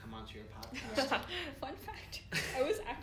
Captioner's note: giggles; laugher